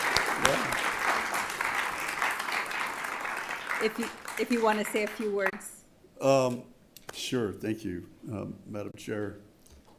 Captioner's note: applause